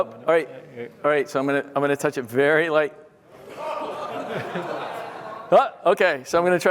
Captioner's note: laughter